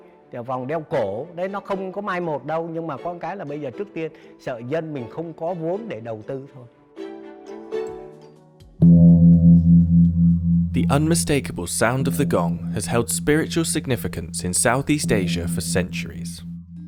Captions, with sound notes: [gong sounds] The unmistakable sound of the gong has held spiritual significance in Southeast Asia for centuries.